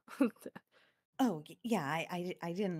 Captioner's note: laughs